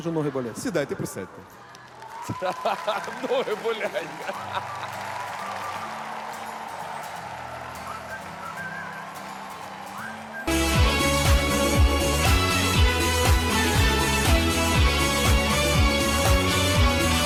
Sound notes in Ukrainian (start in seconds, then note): 4.6 оплески